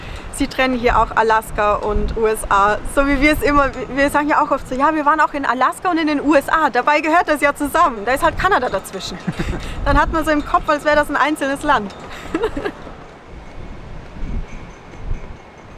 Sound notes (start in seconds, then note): 12.1 laughter